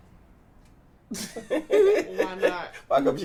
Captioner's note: laugh